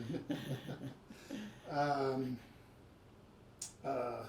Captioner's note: both laugh